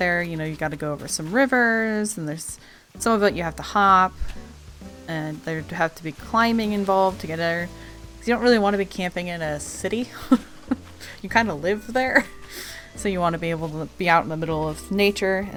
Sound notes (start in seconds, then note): 10.1 laughs